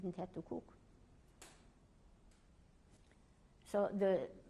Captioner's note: pauses for 3 seconds